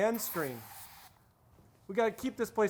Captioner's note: aerosol can sprays